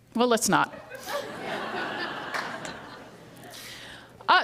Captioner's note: laughter